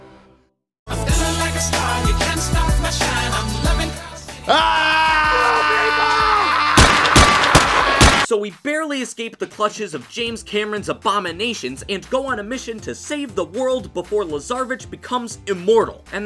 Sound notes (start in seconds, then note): 4.4 screaming; 6.7 gunshots